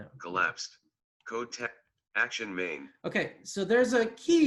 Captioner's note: automated voice